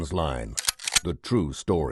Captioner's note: gun cocks